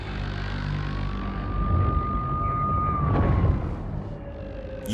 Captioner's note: siren